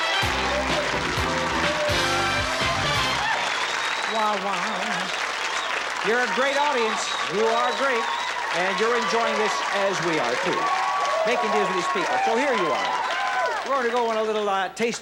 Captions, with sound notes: [theme music playing] [audience cheering] You're a great audience. You are great, and you're enjoying this as we are too. So here you are. We're going to go on a little taste bud.